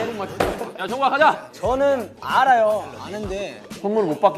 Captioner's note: hesitant